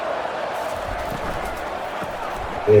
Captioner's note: crowd Noises